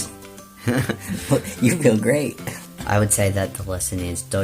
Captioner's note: both laughing